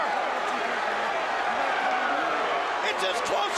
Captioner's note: crowd chatter